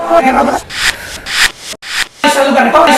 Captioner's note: distorted voices